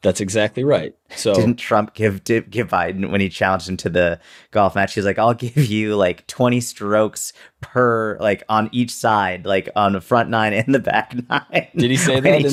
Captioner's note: chuckle